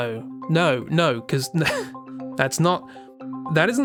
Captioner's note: laughs